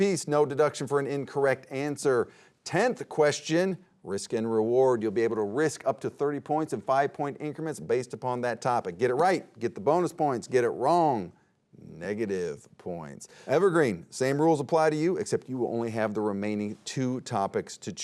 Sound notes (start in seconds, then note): none